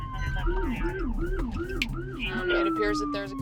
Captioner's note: sirens blaring